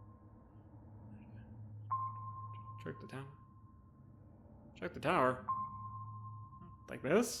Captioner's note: muttering reading